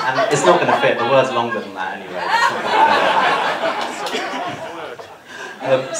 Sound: laughter

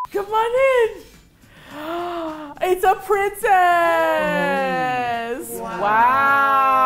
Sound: gasps

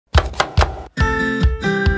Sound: chopping; upbeat music

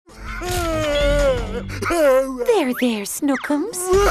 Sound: crying

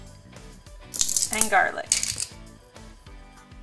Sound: garlic crunching

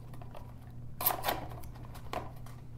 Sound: tape ripping

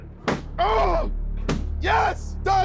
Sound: balloons popping

